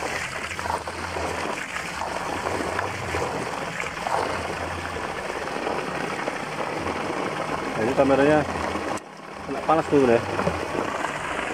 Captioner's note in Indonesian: suara air